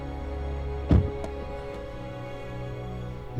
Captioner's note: car door slams shut